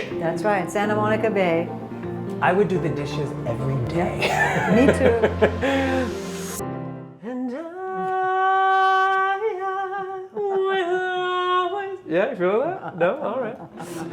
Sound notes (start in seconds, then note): 4.2 chuckling; 12.5 chuckling